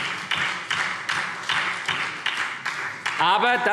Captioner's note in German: Beifall SPD